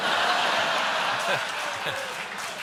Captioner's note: laughter; applause